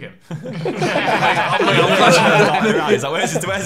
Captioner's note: laughing